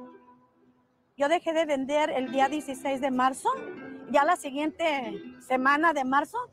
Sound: speaking in foreign language

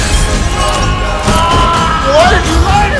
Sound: screaming

